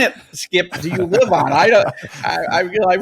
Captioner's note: laughs